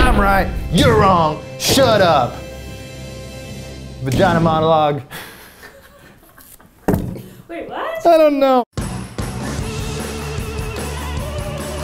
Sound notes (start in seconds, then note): 5.0 laughs; 8.8 upbeat music